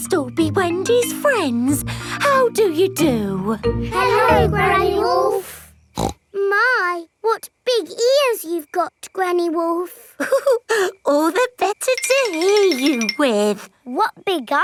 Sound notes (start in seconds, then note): 5.9 snorts; 10.2 chuckles